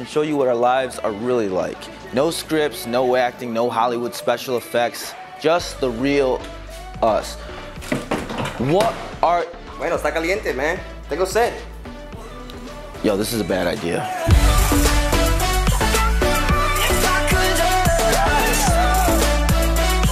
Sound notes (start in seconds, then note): 9.7 speaking in foreign language